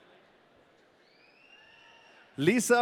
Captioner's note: audience cheering